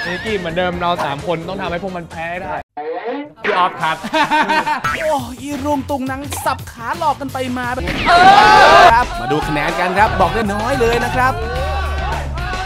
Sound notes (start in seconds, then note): 5.1 gun practice kicks